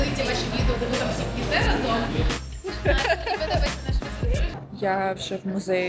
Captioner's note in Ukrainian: сміх